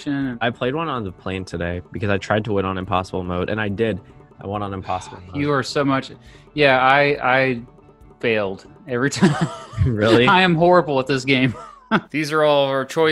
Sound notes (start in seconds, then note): 9.2 laughs